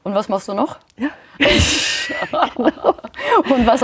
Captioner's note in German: Sie lachen